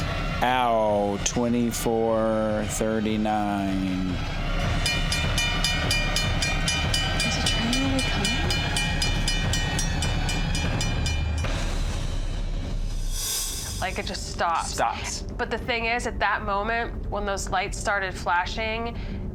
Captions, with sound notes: Ow, 2439. [train alarm clanging] Is the train really coming? [eerie music] Like it just stops. Stops. But the thing is, at that moment when those lights started flashing,